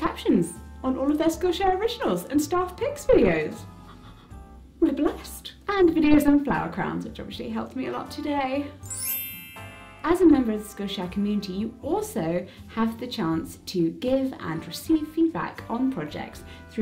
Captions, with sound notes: closed captions on all of their Skillshare Originals and Staff Picks videos. [gasp] We are blessed! And videos on flower crowns, which helped me a lot today! [sparkle sfx] As a member you also have the chance to give and receive feedback on projects through